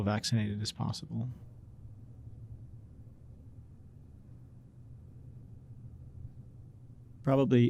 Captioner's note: silence